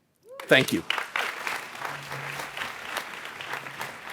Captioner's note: audience applauds